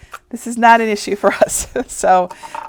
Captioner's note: chuckling